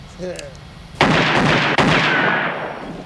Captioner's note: gunshots